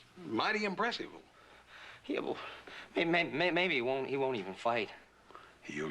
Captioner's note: stuttering